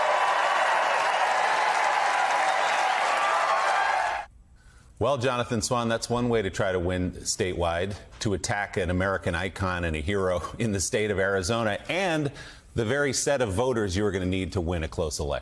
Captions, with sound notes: ARIZONA. [ APPLAUSE ] WE DROVE A STAKE [ APPLAUSE ] WE DROVE A STAKE THROUGH THE HEART OF THE McCAIN MACHINE. >> WELL, JONATHAN SWAN, THAT'S ONE WAY TO TRY TO WIN STATEWIDE,